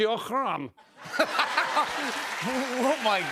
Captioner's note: laughter